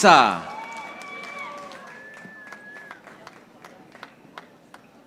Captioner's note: audience applauding